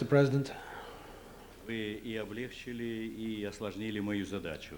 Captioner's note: non-english speech